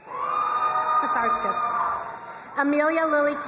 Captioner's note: crowd cheering and applauding